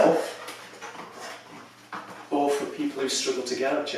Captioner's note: chair creaks